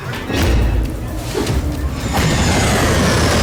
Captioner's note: whip swoops; whip smacking